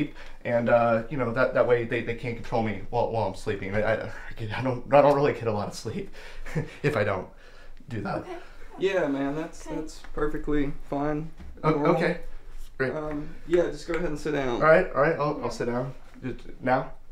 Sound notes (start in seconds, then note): 6.3 laughs